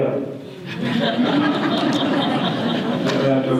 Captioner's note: audience laughter